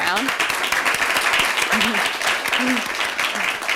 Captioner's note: applause